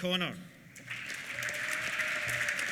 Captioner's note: applause; cheers